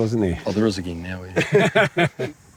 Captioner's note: laughter